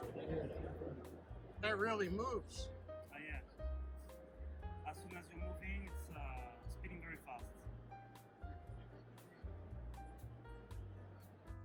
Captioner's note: crowd noise